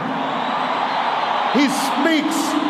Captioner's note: applause